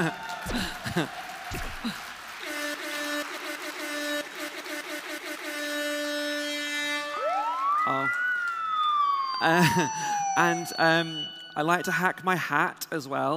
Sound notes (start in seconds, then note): 0.2 applause; 2.4 siren